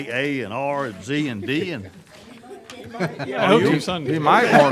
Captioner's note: laughing